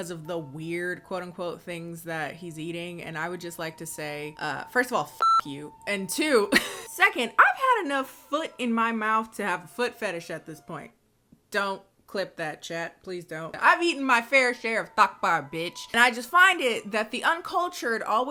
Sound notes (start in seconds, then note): 4.4 beeps; 6.5 laughs